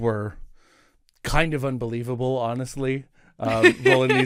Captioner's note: Rover laughs